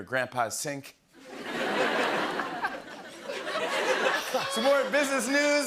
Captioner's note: laughter